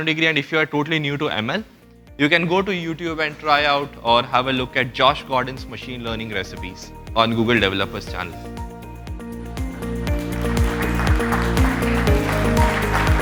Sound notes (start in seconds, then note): 10.1 applause